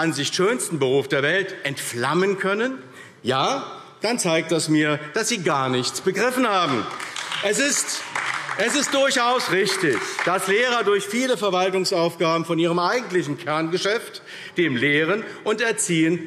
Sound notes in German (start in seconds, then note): 6.6 Beifall AfD